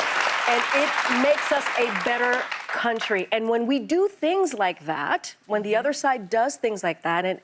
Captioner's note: applause